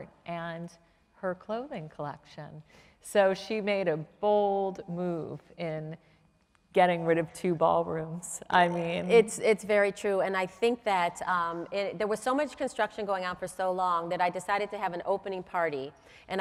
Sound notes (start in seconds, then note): none